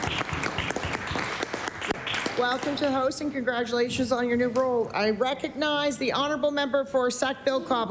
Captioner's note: applause